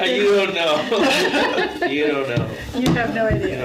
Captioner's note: laughs